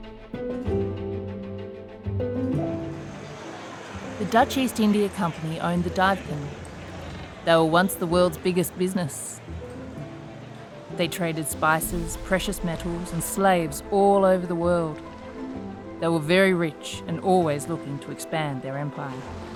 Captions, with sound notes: (water gently splashing and people talking) The Dutch East India company owned the Duyfken, they were once the world's biggest business. They traded spices, precious metals, and slaves all over the world. They were very rich and always looking to expand their empire.